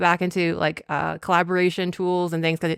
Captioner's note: none